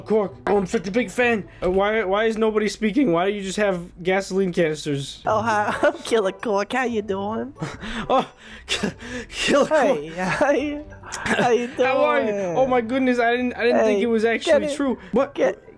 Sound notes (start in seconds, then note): 7.6 laughs